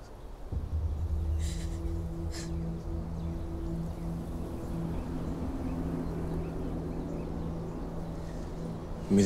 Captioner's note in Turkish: Ağlıyor